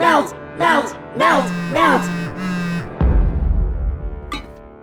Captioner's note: MePhone vibrates in protest